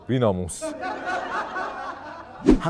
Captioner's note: laughter